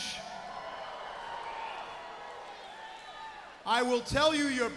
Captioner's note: crowd cheering